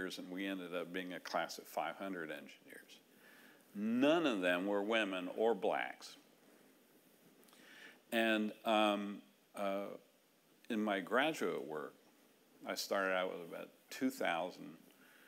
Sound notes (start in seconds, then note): none